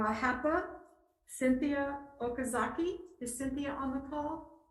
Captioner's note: speaks faintly